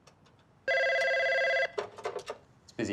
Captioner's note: phone ringing